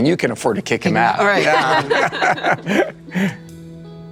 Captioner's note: laughing